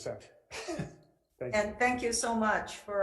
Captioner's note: laughing